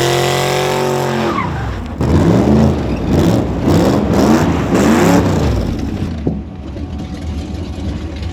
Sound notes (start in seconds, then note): 1.8 engine loudly roaring; 1.8 tired squealing